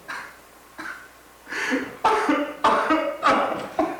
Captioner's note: sobs